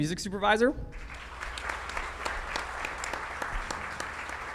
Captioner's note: audience clapping